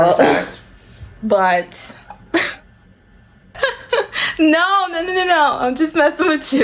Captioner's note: laughs